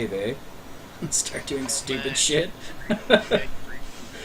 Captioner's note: chuckling